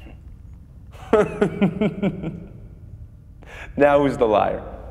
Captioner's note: Nick laughing